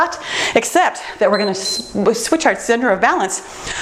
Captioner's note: timer beeps